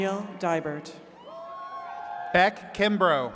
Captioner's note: attendees cheering